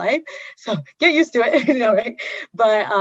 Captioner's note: laughs